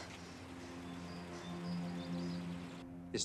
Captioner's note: bird chirp